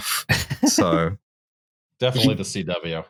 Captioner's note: laughs